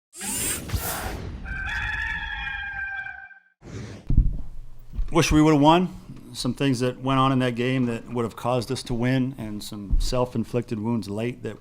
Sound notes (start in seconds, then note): 0.2 whooshing; 1.4 rooster crows